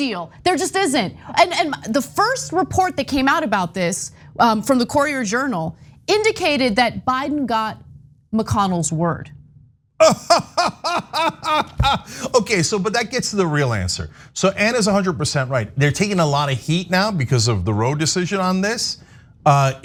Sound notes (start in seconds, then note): 10.0 cough